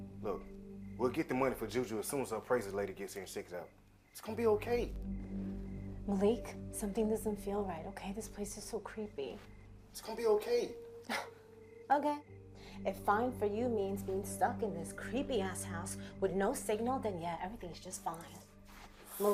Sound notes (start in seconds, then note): 11.6 scoffs